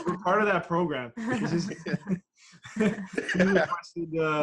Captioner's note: laughter